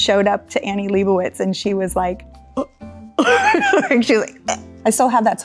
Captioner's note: laughs